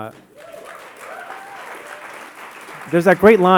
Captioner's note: audience whooping and applauding